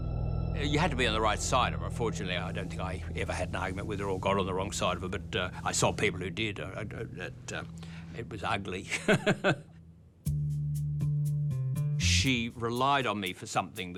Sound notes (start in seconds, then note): 8.9 chuckles